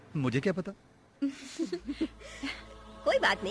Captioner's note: softly Laughing